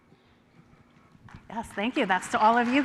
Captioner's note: applause